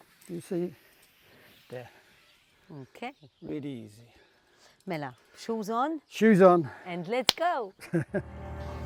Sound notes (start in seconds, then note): 7.8 chuckles